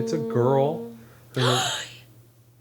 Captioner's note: gasp